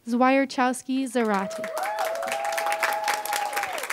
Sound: applause

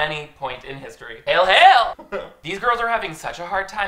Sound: chuckles

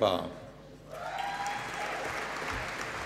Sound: applause

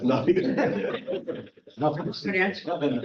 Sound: chuckle

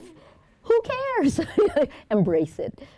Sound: laughs

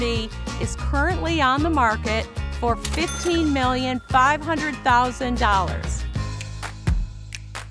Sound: cash register dings

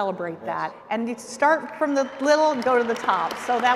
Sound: audience applauds

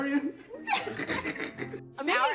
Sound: laughs

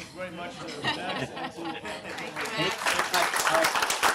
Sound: applause

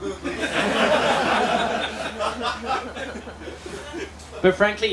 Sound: laughter

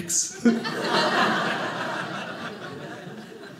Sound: audience laughing

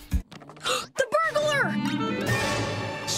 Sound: gasping; sighing

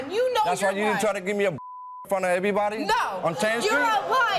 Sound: beep

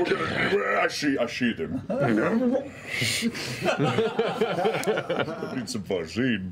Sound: laughter

